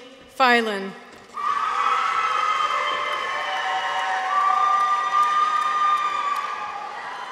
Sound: people cheer; audience applauds

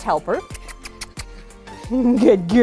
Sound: kissing sounds

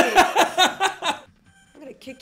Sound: laughs

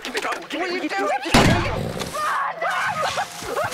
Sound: gunshot; Jonathan laughing hysterically

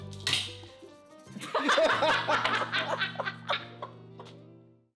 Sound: laughing

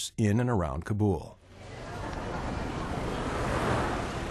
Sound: street Sounds

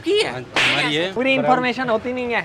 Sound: slap

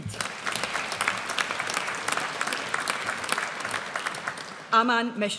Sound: audience applauds

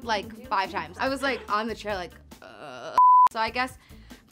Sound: moans

